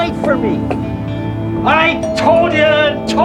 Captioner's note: doorbell rings